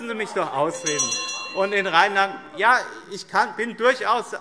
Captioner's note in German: Weitere Zurufe